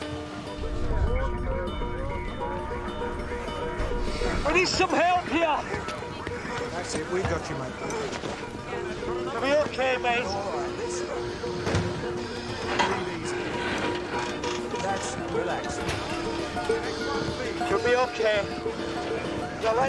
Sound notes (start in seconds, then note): 1.8 men chattering; 1.8 radio chatter